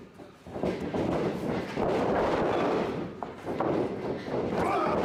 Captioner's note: ring thudding